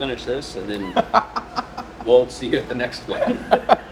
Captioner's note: laughs